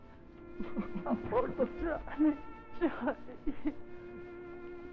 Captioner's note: Dover sobbing